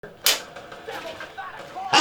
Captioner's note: clapperboard claps